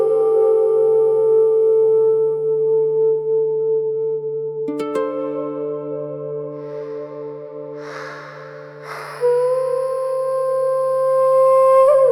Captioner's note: whoosh